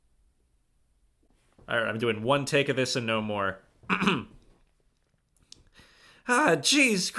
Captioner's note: clears throat